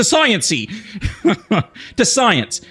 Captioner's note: laughs